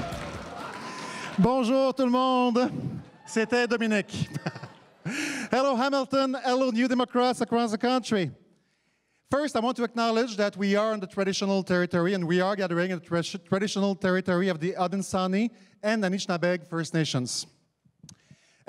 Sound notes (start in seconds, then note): 4.0 laughs